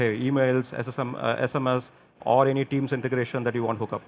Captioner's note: none